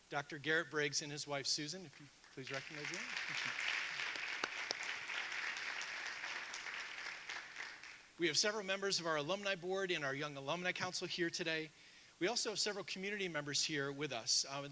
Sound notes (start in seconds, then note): 2.9 chuckles; 4.1 audience applauding